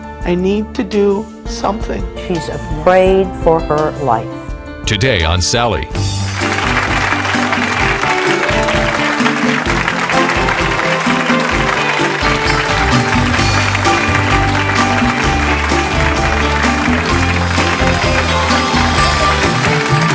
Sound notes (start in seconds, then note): 7.1 upbeat music; 9.7 audience applauds